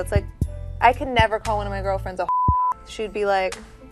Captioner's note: beep